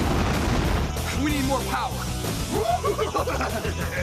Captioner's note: laughing